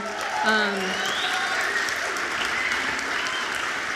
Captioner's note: audience applauds